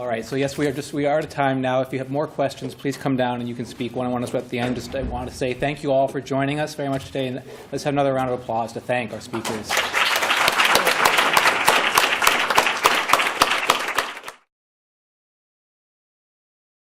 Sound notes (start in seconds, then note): 9.6 applause